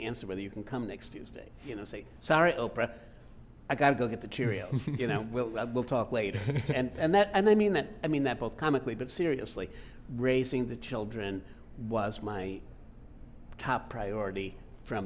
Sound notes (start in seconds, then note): 4.4 laughing